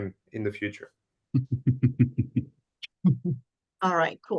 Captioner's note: chuckling